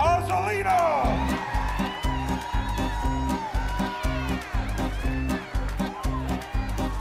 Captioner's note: upbeat music; audience cheering